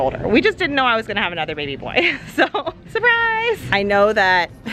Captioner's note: laughs